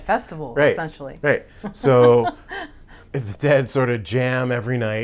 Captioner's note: laughs